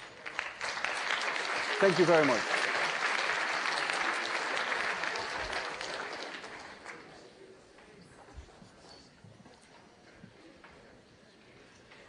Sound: applause

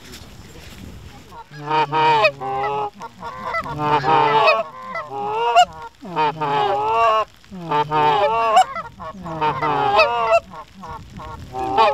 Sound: goose Calling

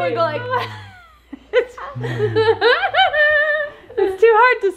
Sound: laughs

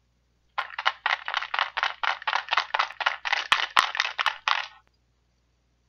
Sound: shaking sound

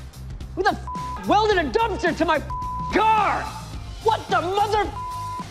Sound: shouting

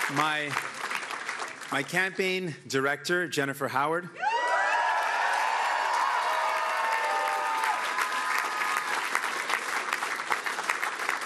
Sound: cheering

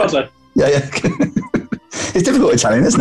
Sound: giggling

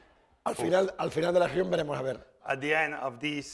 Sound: speaking spanish

